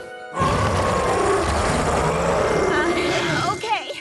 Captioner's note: roars